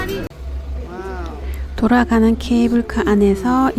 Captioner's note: sudden rain